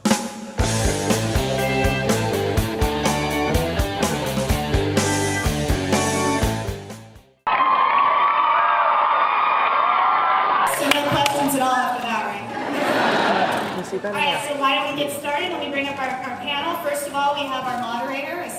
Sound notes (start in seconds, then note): 0.7 guitar riff; 7.4 cheers; 12.5 laughs